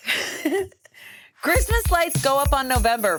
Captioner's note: laugh